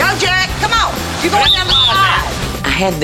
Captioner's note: whistle blowing